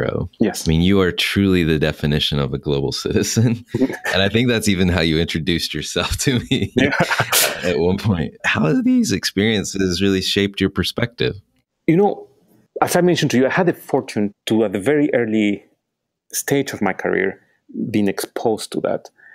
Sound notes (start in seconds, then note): 3.7 chuckles; 6.0 laughing